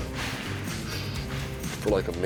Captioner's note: breathing heavily